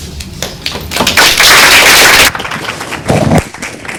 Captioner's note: audience applauds